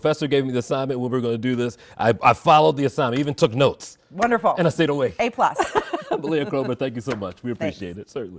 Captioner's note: laughter